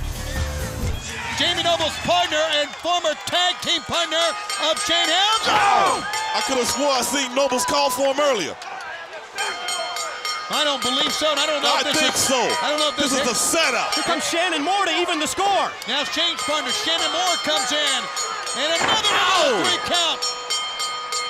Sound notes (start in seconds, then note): 5.6 bell ringing; 12.1 bell ringing